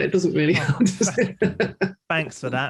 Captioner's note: laughs